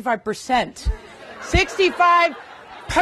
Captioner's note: laughter